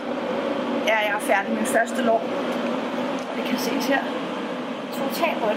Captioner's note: speaking in Danish